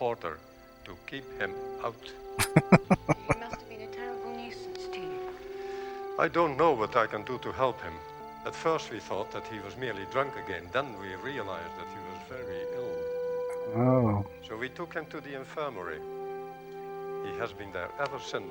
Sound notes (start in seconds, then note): 2.4 laughing